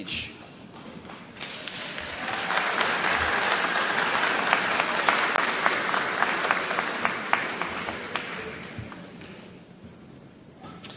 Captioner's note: applause